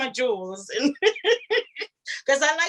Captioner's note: laughs